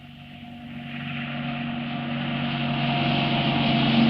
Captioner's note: engine humming